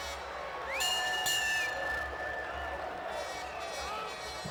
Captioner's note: bell rings